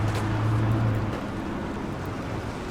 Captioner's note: none